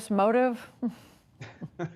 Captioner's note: laughter